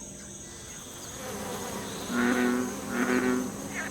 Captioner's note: bees buzzing